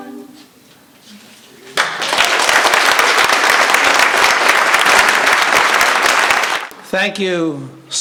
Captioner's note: applause